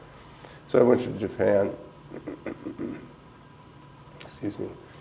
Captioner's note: clears throat